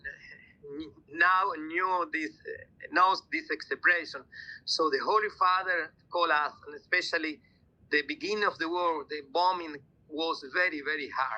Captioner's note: speaking italian